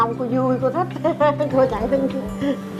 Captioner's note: laughing